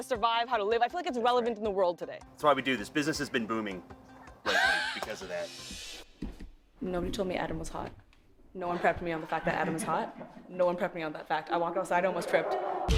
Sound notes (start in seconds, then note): 8.7 laughter